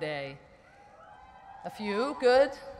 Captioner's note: whooping